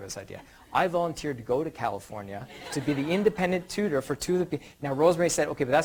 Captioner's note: audience laughter